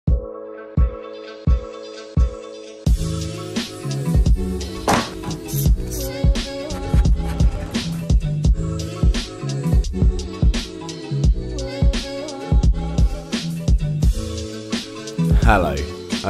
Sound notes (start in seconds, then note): 0.2 mellow music; 6.7 pencil sharpening